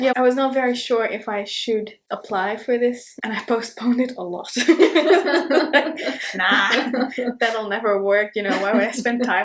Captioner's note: both laugh